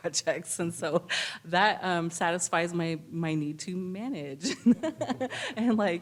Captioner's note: laughs